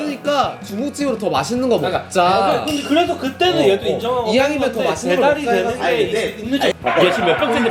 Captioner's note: voices start to rise